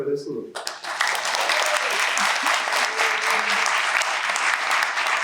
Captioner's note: applause